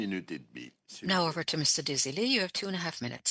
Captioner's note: speaking French